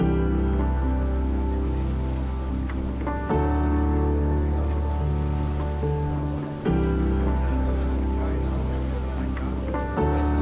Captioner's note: crowd mingling, wind blowing, ocean noises